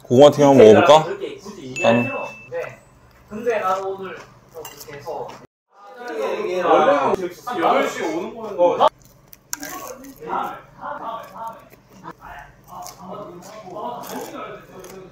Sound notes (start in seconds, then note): 8.9 crunch, crunch